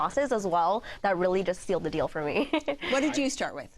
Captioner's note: chuckles